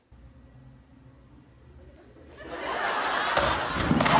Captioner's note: laughter